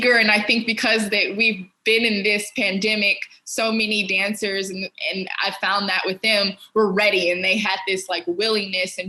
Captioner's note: none